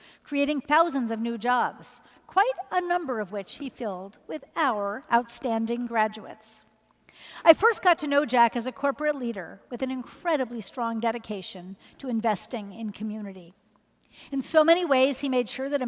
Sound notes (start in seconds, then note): none